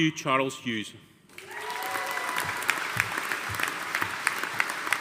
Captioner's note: audience applauding